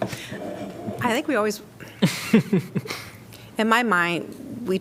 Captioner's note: laughter